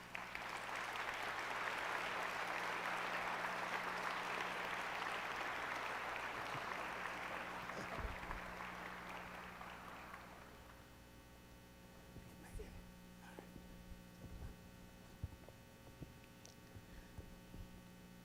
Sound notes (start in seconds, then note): 4.3 applause